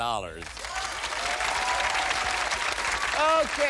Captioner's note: applause